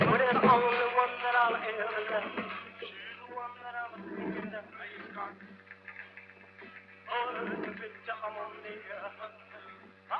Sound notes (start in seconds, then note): 3.9 sound of rowing; 7.1 song on radio - rockabilly